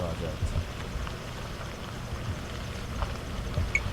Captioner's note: engine, tires on dirt